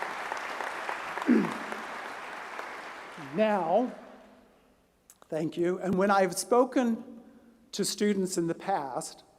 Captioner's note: applause